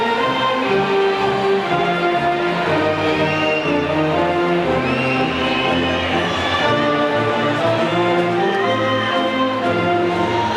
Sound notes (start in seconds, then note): 2.0 band music drowns out ushers; 2.7 audience whistles and faintly shouts